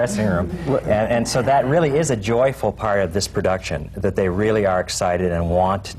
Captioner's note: laughter